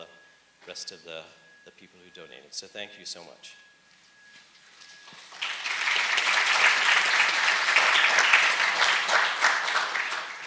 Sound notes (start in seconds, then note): 5.2 audience applauds